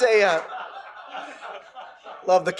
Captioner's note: laugher